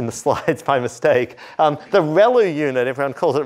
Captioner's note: laughter